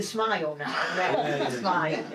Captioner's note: laughing